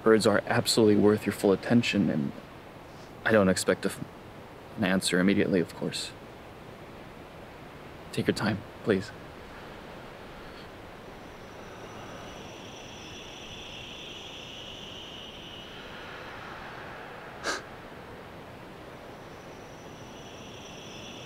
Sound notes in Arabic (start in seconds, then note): 9.8 زقزقة الحشرات; 15.5 ضحكة مكتومة; 17.5 زقزقة الحشرات